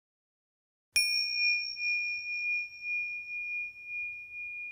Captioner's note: timer chimes